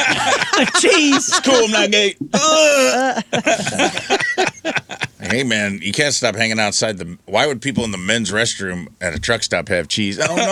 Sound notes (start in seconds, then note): 0.0 laughing; 2.1 groaning